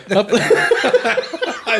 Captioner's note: all laughing